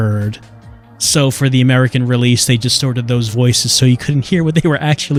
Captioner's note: chuckling